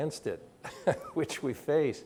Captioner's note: chuckles